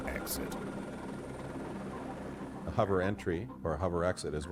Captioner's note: voiceover